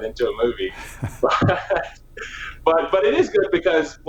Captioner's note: laughing